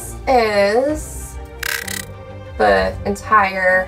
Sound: background music; glitch sound effect

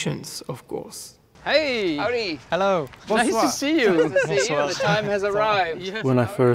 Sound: people greeting each other

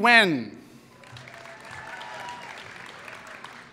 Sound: applause

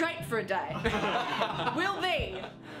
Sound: all laugh

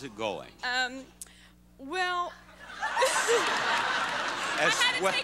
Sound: audience laughing

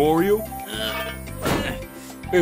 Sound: grunting and dropping weight

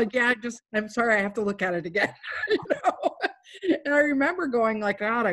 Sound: laughs

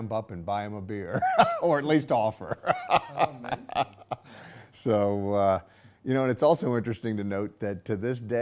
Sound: laughing

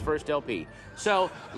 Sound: audience laughter

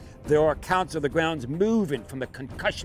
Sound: none

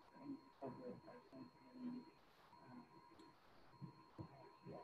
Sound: student speaking faintly

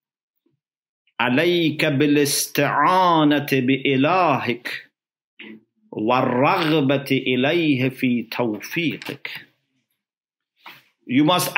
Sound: Arabic

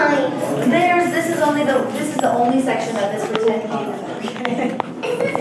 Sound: laughs

